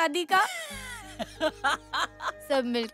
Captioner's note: Laughs